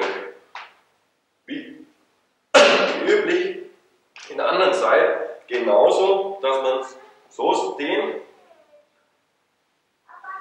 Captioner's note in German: hustet